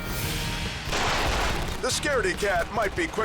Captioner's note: gunfire erupts